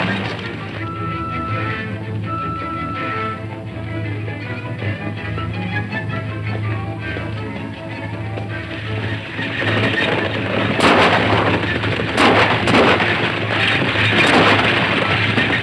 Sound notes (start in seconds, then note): 0.2 energetic orchestral music; 9.6 galloping hooves; 10.7 firing guns